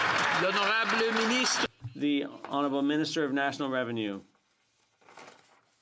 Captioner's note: some Applause